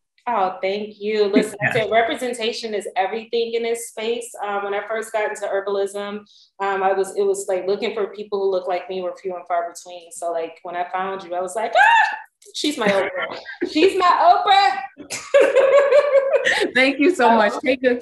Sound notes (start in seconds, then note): 11.8 cheers; 15.0 all laughing